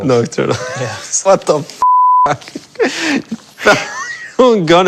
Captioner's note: wheezing